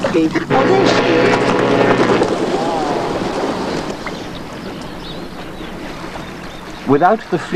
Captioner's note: ship's horn sounds